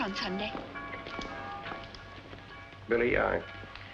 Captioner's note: church Bells